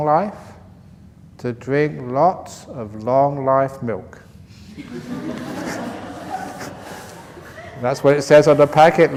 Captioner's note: laughter